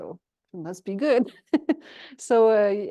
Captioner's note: chuckles